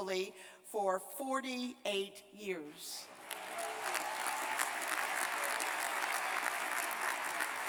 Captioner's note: cheers and applause